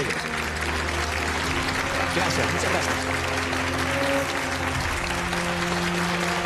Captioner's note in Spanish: Aplausos